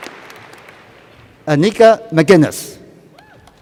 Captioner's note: applause